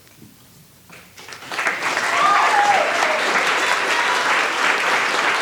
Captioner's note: applause